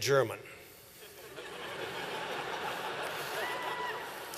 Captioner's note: laughter